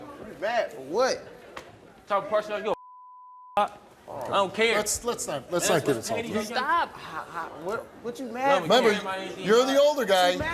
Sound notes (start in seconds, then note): 2.8 beep